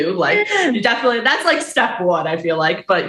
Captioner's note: chuckles